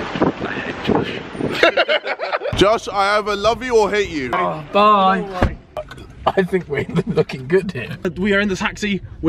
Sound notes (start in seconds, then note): 1.5 laughing; 5.3 door bangs